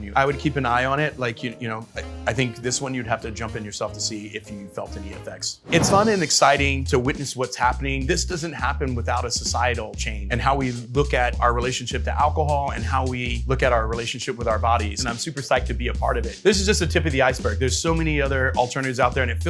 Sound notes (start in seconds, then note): 5.6 graphic whooshes